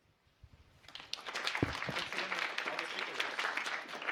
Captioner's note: applause